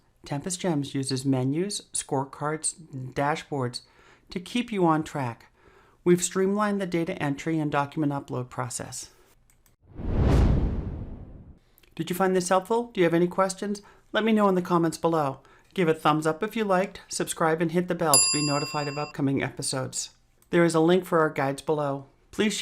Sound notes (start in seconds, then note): 9.9 whoosh